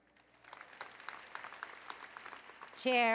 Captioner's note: applause